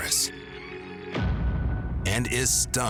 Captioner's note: dramatic sound